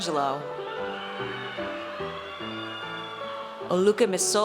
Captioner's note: audience cheers